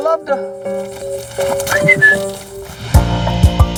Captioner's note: whistling; gentle music